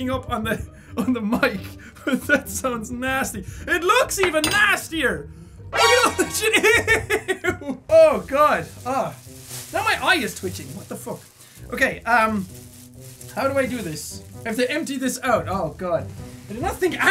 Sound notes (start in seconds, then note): 5.7 pitched up alert noise from Metal Gear Solid